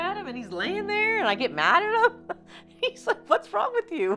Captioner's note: laughing